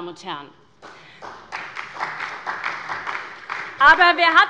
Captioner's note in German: Beifall bei der SPD